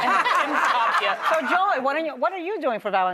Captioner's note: laughter